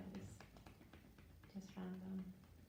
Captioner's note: gentle tapping